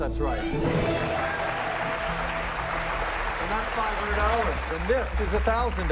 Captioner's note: cheers and applause